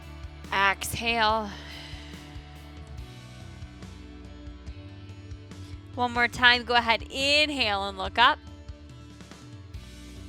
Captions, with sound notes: Exhale. (exhales) One more time. Go ahead, inhale and look up.